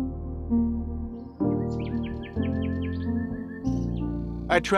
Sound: soft piano music; birds chirping

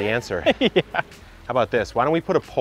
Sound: laughing

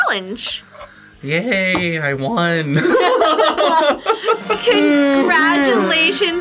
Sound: laughs

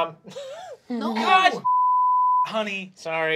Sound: beeping

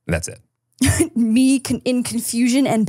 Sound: laughs

